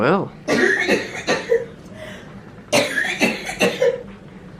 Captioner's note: coughing